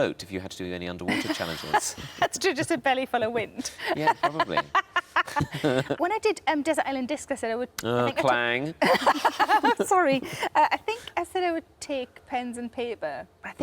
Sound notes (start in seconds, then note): 3.7 laughs; 5.2 laughing; 8.8 laughs